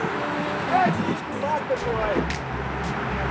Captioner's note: cursing